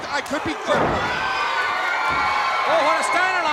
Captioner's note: crowd cheering